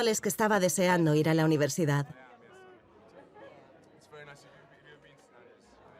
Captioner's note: speaking softly